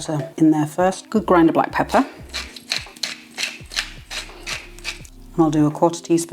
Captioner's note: pepper mill grinding